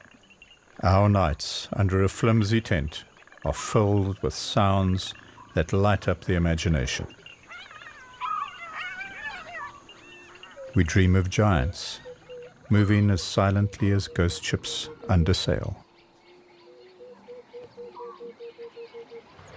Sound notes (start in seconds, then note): 7.7 various animal calls; 16.7 animals calling